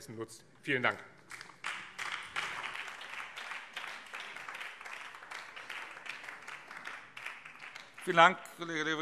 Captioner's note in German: Beifall BÜNDNIS 90/DIE GRÜNEN